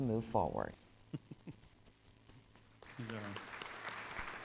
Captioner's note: chuckles; applause